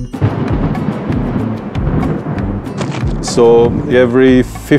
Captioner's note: thunder booms